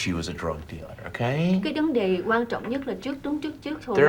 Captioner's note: speaking vietnamese